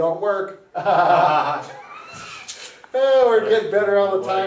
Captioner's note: both laugh